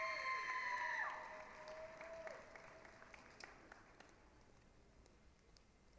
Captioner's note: applause, cheering